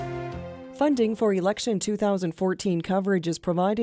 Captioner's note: voiceover